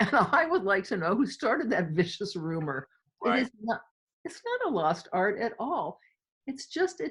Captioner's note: laughter